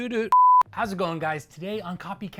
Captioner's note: beep